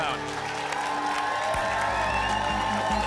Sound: applause and cheering

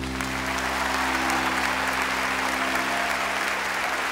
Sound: cheers and applause

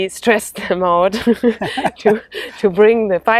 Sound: both laugh

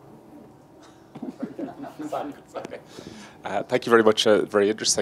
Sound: group laughs

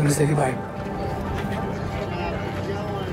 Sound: people chattering

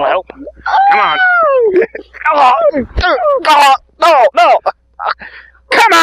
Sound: screams in horror, attacks

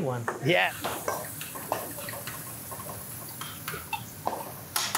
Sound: wine fizzing

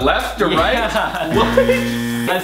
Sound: laughs; loud buzzing

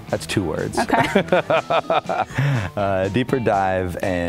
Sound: laughing

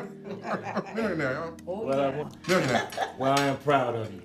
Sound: family members chatting at once

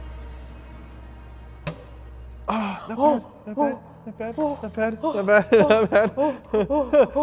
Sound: sigh of relief

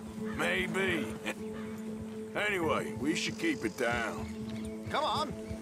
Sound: laughs

